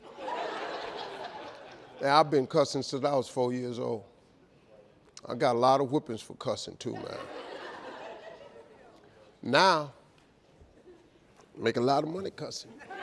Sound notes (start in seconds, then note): 0.0 audience laughing; 6.9 audience laughing